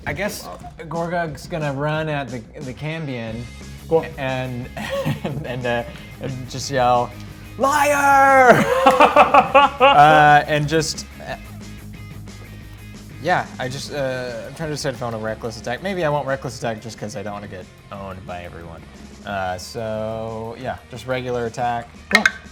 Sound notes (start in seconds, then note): 4.8 laughs; 7.9 laughs; 22.2 die rolls